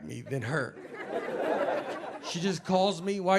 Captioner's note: audience laughs